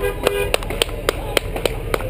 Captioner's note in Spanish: bocinas